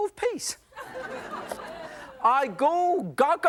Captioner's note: audience laughs